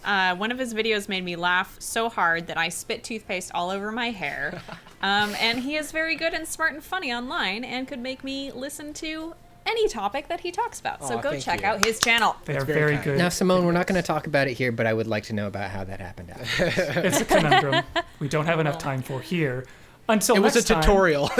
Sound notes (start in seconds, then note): 13.2 pat